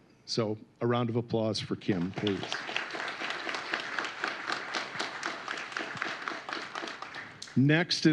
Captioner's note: applause